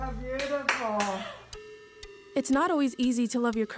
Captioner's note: clapping